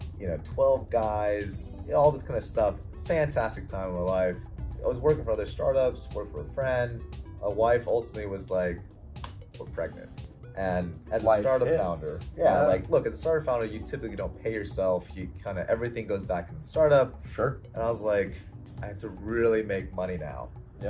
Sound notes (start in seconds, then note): 9.2 clap